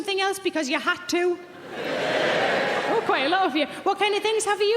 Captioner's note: audience cheering